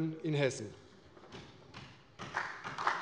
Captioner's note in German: Beifall bei der CDU und dem BÜNDNIS 90/DIE GRÜNEN